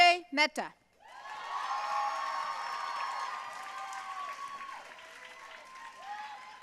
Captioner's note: audience cheering and applauding